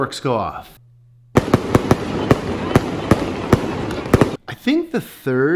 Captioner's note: fireworks bursting